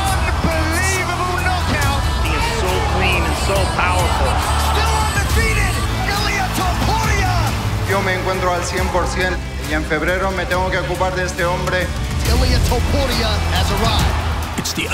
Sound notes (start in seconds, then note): 8.5 speaking in Spanish